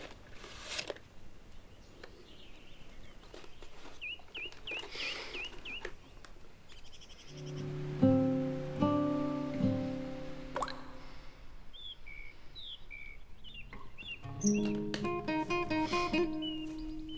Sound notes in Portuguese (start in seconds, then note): 4.9 Respiração pesada; 10.4 Cair de gota; 12.3 Chilreio de pássaros